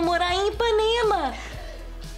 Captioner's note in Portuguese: risos